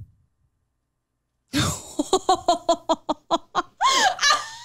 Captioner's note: laughs